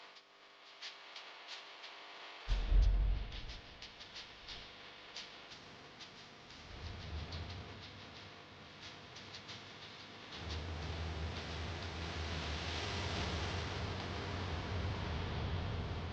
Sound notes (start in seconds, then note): none